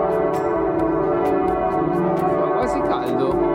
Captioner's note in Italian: campana